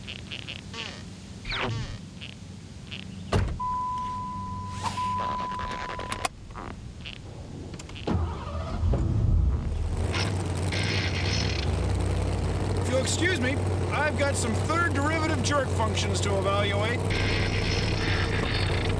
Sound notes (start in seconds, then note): 3.7 bell dinging; 6.0 dinging stops; 7.4 engine turns over